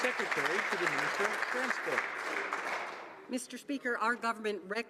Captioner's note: some Applause